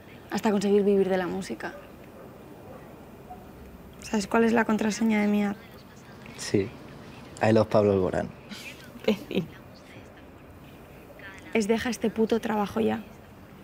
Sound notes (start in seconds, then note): 8.4 laughing